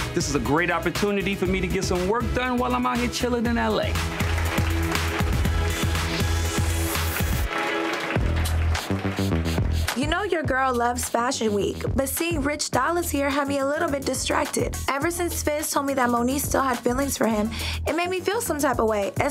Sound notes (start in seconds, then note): 3.4 audience clapping; 8.9 upbeat music